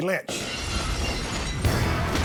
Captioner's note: glass breaking; rock music